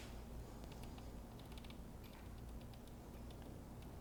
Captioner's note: dial clicks